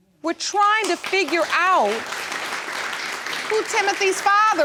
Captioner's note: audience applauding